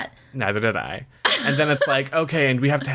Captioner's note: laughs